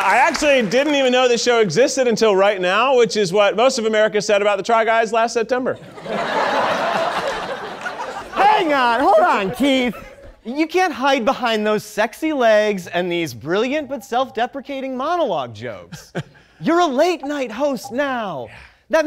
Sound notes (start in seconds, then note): 5.8 audience laughing